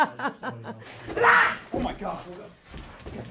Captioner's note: laughter; slapping